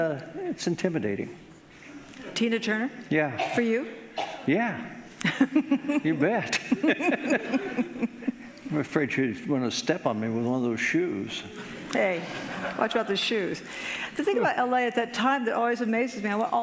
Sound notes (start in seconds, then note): 6.5 laughing